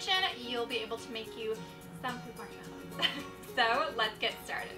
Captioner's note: laughs